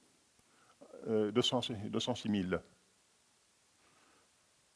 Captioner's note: speaking french